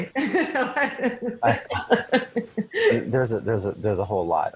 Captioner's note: laughing